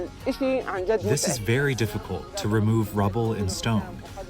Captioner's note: through translator